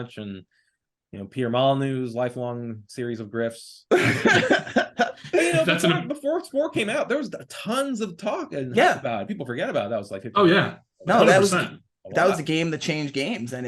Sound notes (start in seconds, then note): 4.0 laughing